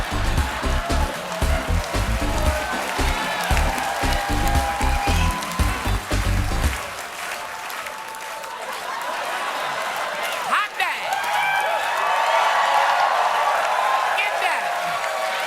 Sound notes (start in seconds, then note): 0.1 applause; 8.3 cheers and applause; 8.3 laughter